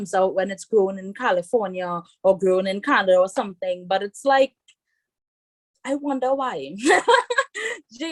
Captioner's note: rires